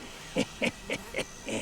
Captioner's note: chuckles